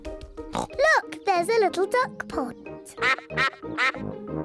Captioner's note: snorts; ducks quack